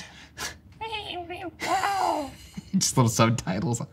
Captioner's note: meowing, "I'll see you in hell!"